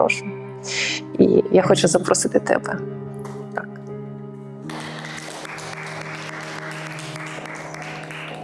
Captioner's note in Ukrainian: оплески